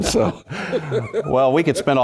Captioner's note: laugh